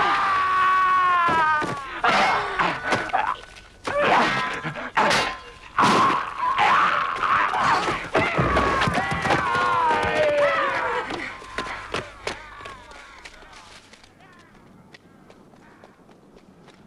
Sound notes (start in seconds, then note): 0.0 raider screams; 2.2 both grunting